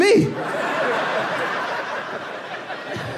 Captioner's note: laughs